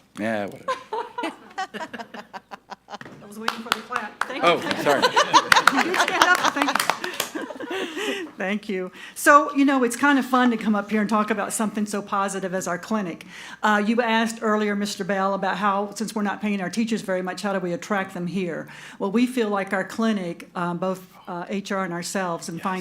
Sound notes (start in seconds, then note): 0.6 laughing; 3.3 audience applauding